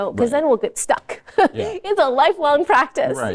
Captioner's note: laughs